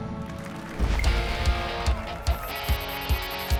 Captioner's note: applause and cheers